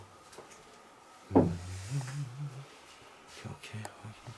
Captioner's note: is humming; with small voice